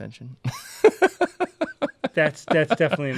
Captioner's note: laughs